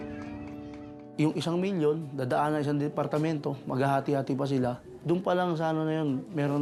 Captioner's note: speaks in foreign language